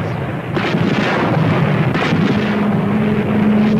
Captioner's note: cannons firing